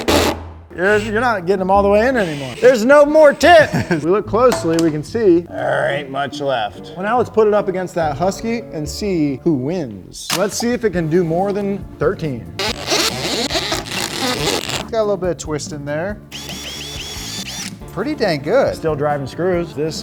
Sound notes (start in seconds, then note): 12.6 drilling; 16.3 drilling